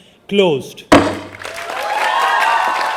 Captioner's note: gavel banging; audience applauding; audience cheering